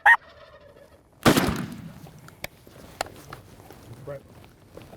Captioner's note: turkey call; turkey gobbling; gun shot